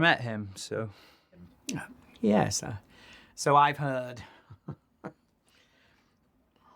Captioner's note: chuckles